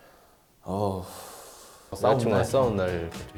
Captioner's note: deep sigh